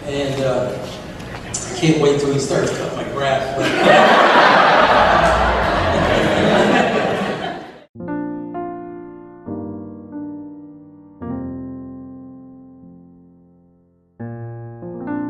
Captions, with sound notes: and can't wait 'til he starts cutting my grass. (crowd laughing) (gentle piano music)